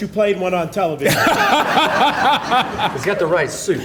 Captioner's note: audience laughing